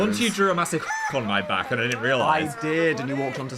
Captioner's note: chickens clucking